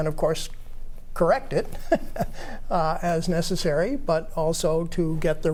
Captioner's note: chuckles